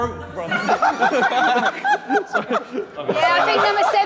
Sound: Tobi laughing

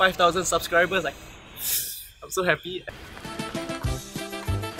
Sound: tsk

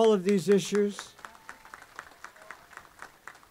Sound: applause

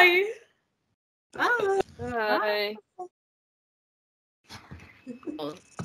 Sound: chorus of goodbyes

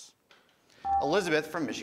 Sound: buzzer

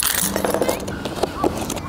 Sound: keys jangle

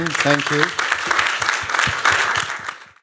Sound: applause

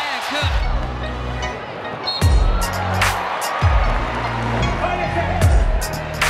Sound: crowd cheering; hip hop music

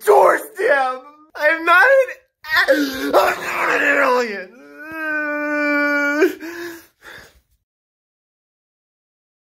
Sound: fake crying noises

